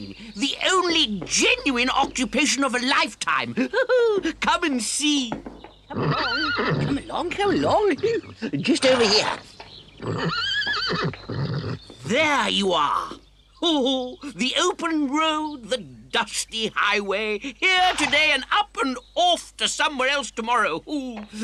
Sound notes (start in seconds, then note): 5.8 horse neighs; 10.0 horse neighs